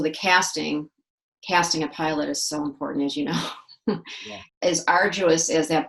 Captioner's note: laughs